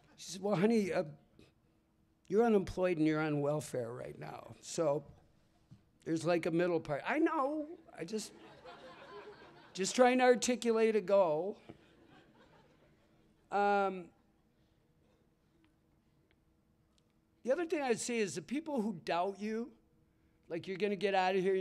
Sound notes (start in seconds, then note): 11.6 laughter